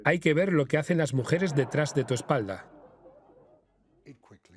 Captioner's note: audience laughs